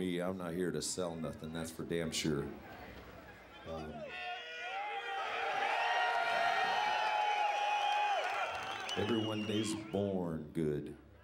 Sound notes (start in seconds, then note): 3.3 inmates cheering